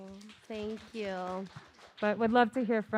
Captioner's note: audience clapping